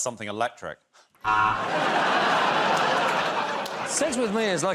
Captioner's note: laughter